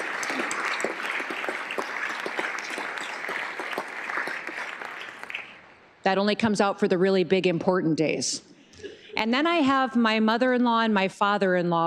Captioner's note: applause